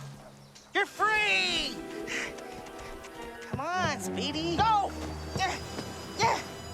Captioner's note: groaning